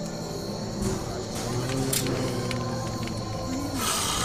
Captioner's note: moans; snarls